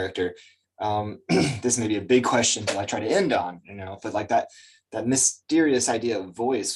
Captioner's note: clears throat